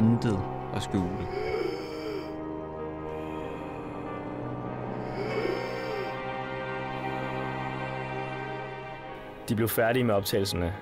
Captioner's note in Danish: hjorte åndedræt